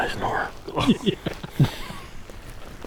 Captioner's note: laughing